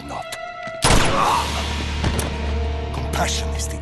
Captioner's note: gun shoots